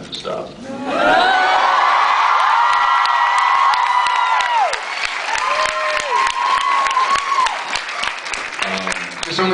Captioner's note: cheers, screams, applauds